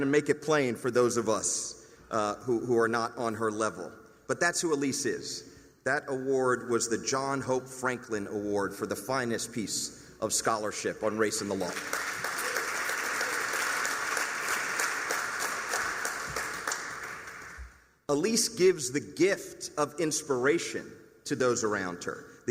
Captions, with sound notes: and make it plain for those of us who are not on her level. But that's who Elise is. That award was the John Hope Franklin Award for the Finest Piece of Scholarship on Race in the Law. [applause] Elise gives the gift of inspiration to those around her.